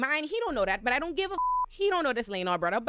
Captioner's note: beep